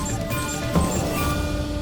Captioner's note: bangs